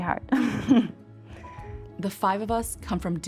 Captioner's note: chuckling